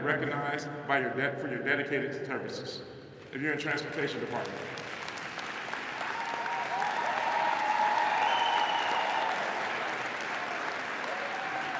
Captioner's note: applause